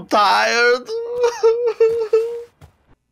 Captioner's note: weeps